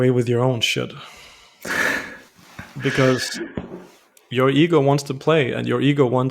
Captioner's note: laughter